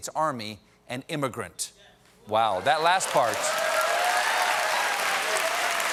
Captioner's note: cheers and applause